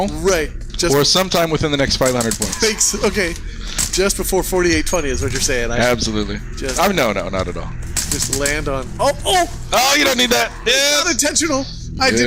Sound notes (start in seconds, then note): 2.8 laughing